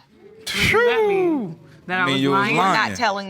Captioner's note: exclaims